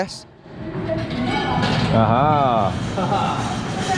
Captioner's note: locker creaks open